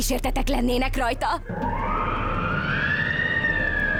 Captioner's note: ghostly moaning